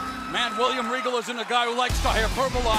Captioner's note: cheers and applause